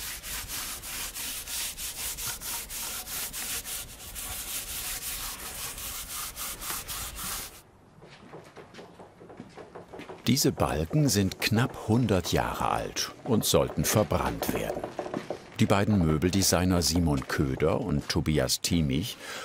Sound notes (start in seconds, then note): 3.5 quiet scraping